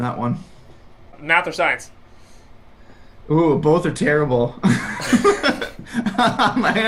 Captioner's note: laughs